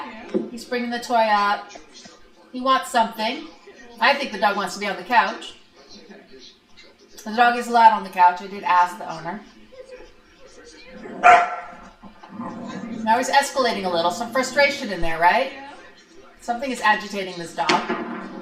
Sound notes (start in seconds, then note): 11.0 dog barks and growls